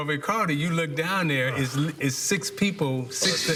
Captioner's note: laughter